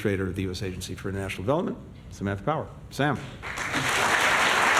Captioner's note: applause